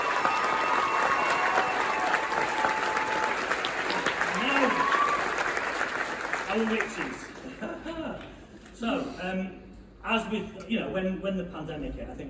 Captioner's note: loud cheering, whistling, & applause